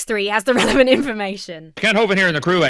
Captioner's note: chuckles